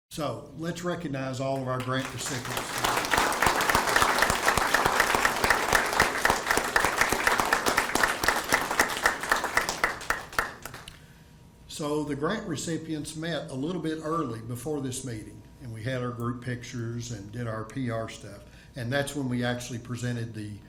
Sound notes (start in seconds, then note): 2.9 attendees clapping